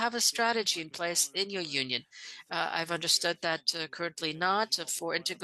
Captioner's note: speaking French